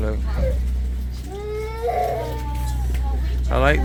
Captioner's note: baby crying